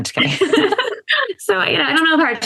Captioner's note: laughter